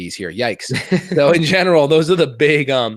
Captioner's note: laughs